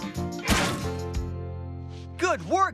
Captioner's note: clank!